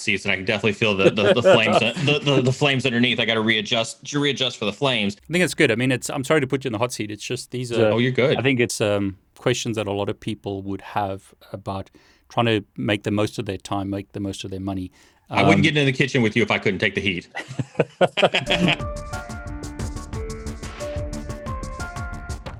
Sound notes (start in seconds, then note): 18.0 laughs; 18.5 bright upbeat music